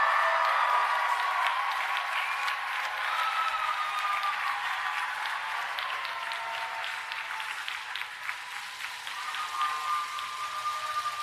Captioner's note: applause and Cheering